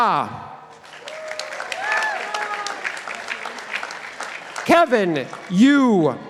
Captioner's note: participants applauding